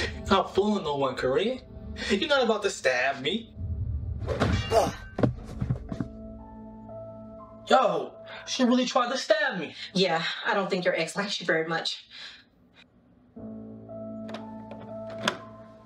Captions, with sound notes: You not fooling no one corrine. You not about to stab me. [Forceful metal hit] Yo... she really tried to stab me. Yeah I don't think your ex likes you very much. [Door opens]